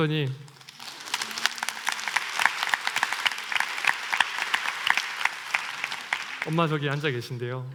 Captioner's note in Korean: 박수